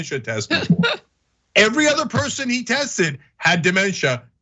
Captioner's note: laugh